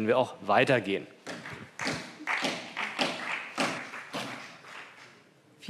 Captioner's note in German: Beifall CDU und BÜNDNIS 90/DIE GRÜNEN